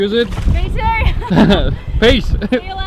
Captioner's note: laughter